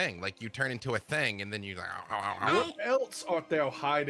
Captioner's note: groans